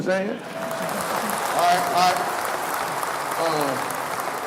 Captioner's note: audience clapping